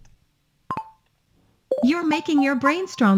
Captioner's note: microphone beeping